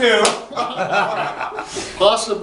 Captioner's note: audience laughter